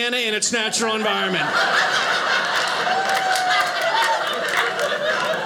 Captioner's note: audience laughing